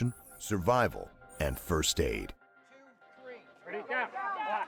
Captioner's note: voiceover